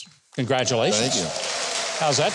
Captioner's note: applause